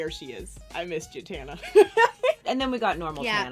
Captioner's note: laughing